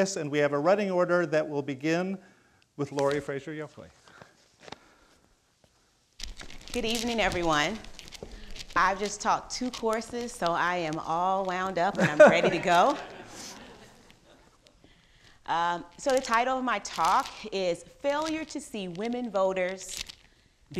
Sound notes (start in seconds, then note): 12.0 crowd laughing